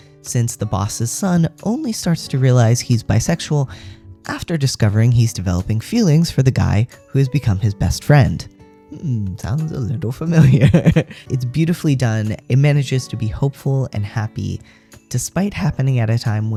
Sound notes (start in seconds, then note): 10.4 laugh